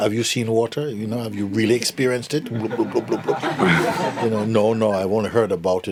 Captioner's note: laughter